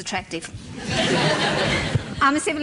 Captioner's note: laughter